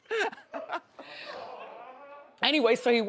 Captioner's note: co-host laughs